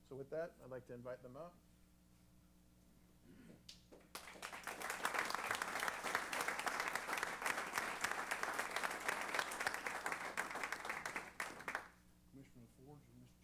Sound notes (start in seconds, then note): 4.0 applause